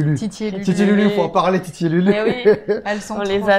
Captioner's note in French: rire